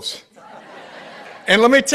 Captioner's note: participants laughing